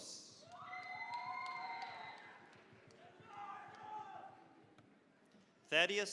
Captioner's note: cheering, applause